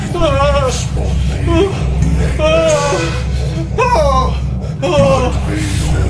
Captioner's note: ghost speaking in foreign language